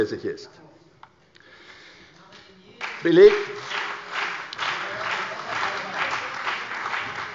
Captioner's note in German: Beifall bei der CDU und dem BÜNDNIS 90/DIE GRÜNEN